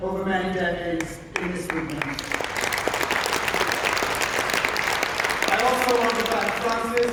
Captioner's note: applause